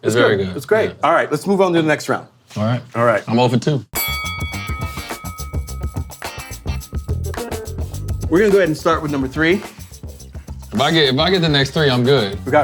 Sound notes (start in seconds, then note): 3.9 bell dinging; 4.0 chill instrumental music; 10.1 chill instrumental music continues